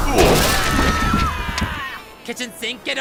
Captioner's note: screaming